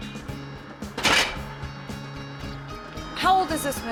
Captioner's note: click